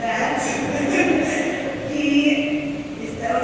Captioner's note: laughter